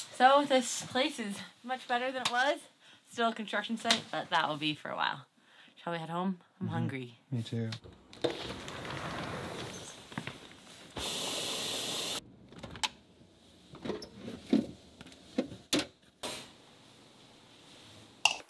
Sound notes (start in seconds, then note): 7.8 door sliding; 11.4 water running